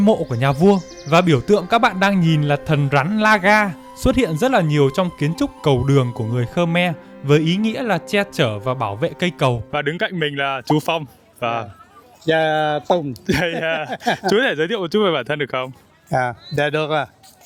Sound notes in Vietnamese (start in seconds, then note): 13.2 tiếng cười